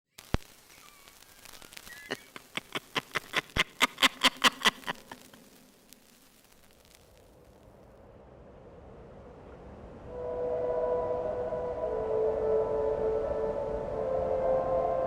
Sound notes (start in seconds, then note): 1.8 crazy nun laughs; 7.2 wind Blowing; 8.4 eerie Music